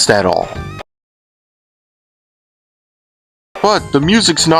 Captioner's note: there was no sound btw